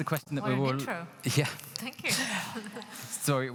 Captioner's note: laughing